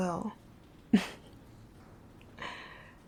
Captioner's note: laughing